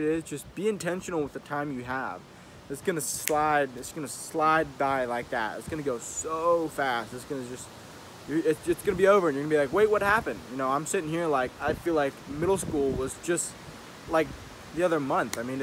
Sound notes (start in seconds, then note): 3.2 snaps fingers